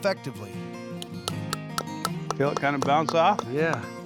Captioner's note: hammering